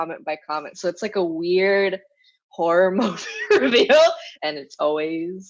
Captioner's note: laughs